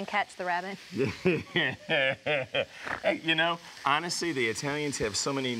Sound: laughs

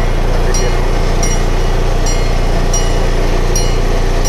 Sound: train bell clanging

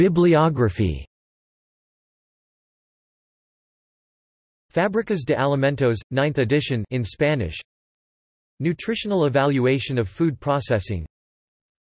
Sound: in Spanish

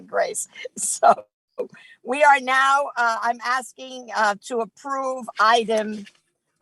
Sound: chuckles

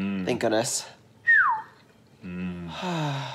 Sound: whistles; sighs

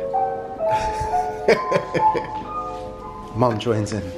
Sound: laughing

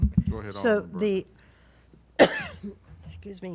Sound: coughs

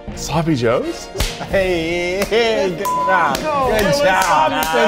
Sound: all exclaiming

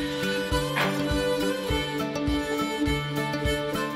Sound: construction noises

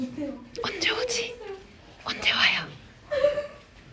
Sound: whispers

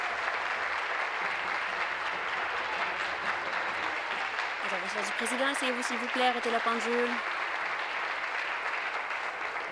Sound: applause

